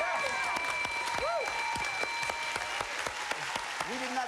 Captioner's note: cheers and applause